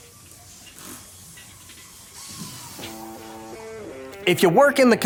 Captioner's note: drill whirling